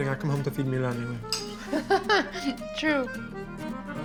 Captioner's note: laughs